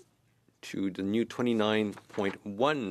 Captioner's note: speaking French